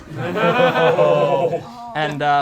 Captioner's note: group groans